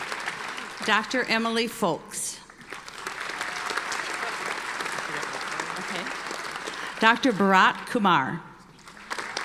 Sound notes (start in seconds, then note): 2.5 audience applauding; 8.8 audience applauding